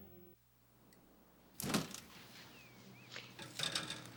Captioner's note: refrigerator door opens